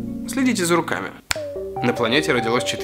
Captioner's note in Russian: Щелчок пальцами